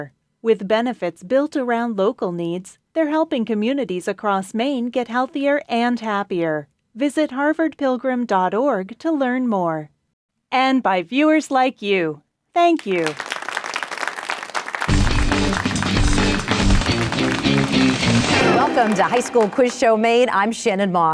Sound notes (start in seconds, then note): 13.6 applause; 14.8 energetic music